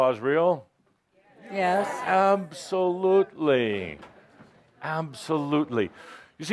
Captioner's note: audience says, “Yes”